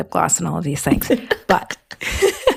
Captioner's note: laughs